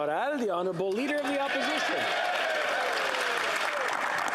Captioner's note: applause